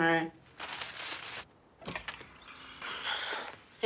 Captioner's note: birdsong